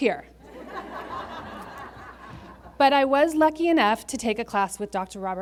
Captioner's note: laughter